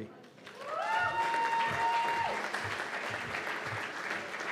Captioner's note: cheers and applause